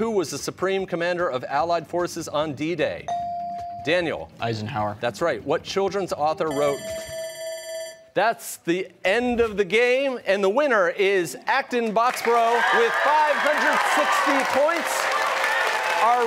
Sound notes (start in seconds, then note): 6.5 bell ringing